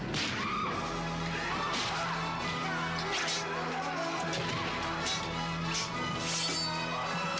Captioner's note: all screaming; fists thudding; dramatic music; fists thudding